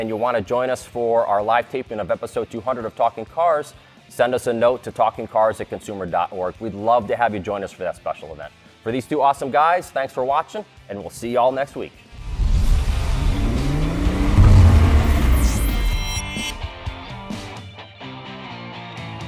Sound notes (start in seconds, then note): 12.1 engine sounds; 12.2 theme music playing